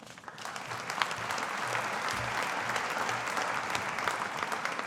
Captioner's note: audience applauding